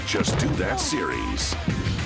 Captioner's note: screaming